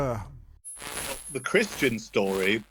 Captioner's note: static crackling